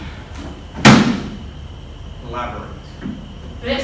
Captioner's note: slamming